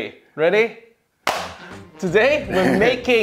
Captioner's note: clapping